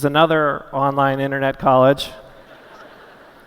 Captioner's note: laughter